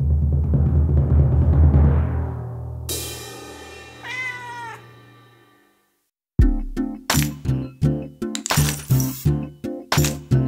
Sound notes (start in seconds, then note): 0.2 suspenseful music; 2.8 cymbal crashes; 4.0 cat meows; 6.4 upbeat music